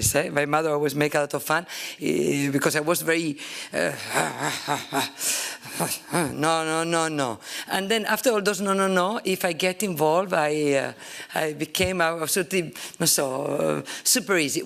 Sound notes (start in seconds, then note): 3.8 makes gruff sound